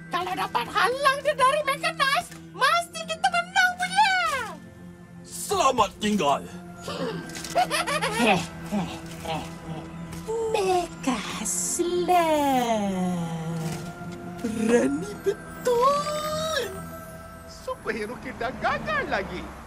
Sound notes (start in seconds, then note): 7.4 slow laughs slowly; 7.5 Go snickering